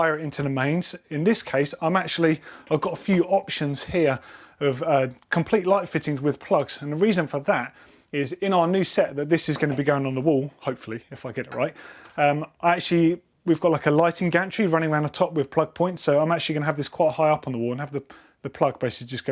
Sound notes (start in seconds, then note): none